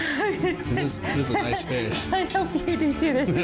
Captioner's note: laughing